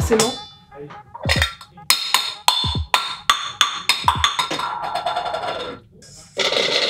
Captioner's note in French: Bruits du couvercle qui tombe et roule